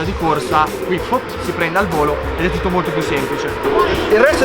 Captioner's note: fwoop